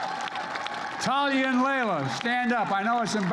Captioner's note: applause